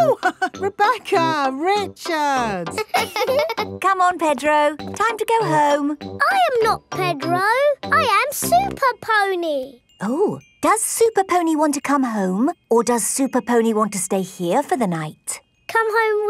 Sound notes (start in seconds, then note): 2.6 both laughing; 2.6 chuckles